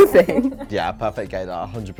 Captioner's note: laughing